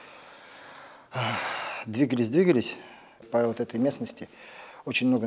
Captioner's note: sighs